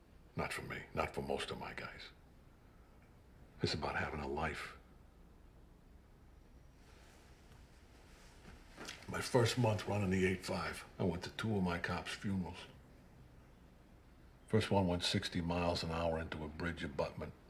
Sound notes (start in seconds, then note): none